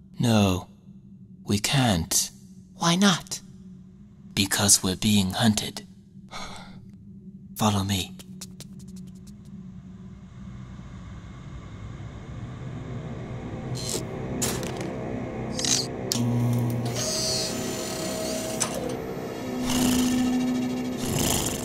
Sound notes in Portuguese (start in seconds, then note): 6.3 Suspiros; 20.9 ronrona rouca